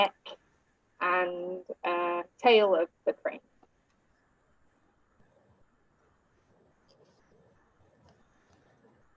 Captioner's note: silence